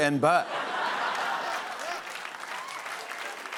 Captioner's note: laughter